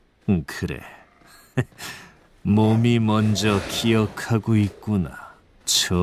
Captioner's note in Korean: 하하